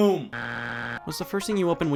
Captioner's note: buzzer beeps